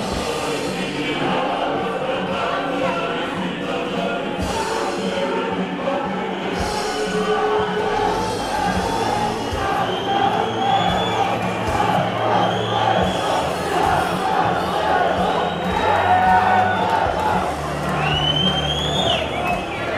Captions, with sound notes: [Crowd chanting] Georgia! Georgia! Georgia!